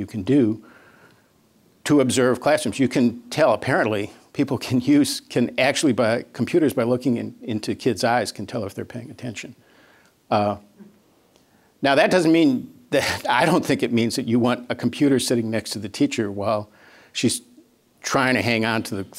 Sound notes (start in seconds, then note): none